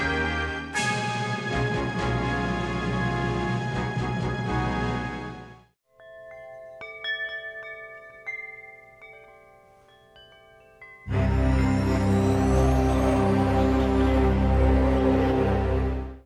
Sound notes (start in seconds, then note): 5.9 chimes clanking; 11.0 upbeat music; 11.5 logo whooshing